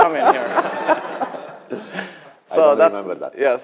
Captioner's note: laughter